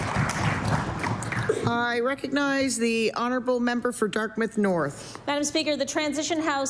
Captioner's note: applause